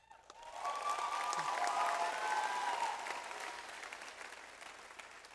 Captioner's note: audience applauds